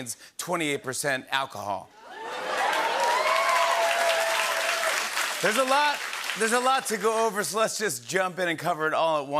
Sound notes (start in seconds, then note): 2.0 cheering and applause